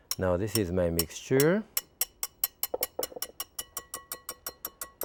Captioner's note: whisk tapping